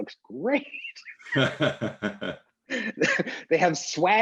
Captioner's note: both laughing